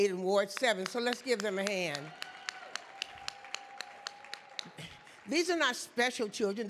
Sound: audience clapping

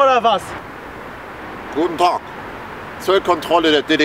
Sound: east german accent

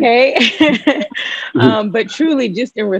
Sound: laughing

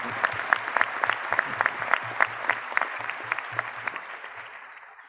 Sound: applause

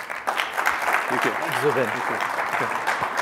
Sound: applause

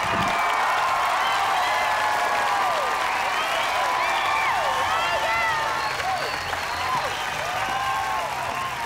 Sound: cheering; applauding

